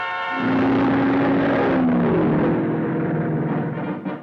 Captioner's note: cars revving